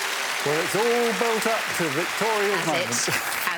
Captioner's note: audience applauding